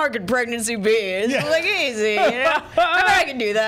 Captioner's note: Brennan laughing